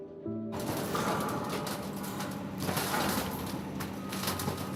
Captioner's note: breaking rubble